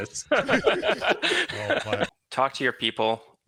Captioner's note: laugh